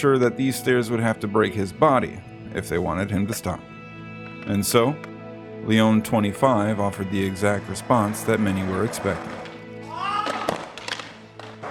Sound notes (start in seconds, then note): 9.8 screaming loudly